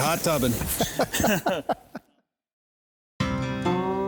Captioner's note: man laughs